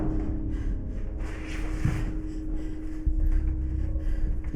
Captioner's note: hard breathing; soft dramatic music